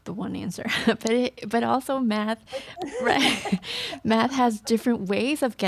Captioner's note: everyone laughs